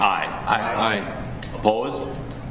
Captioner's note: multiple Voices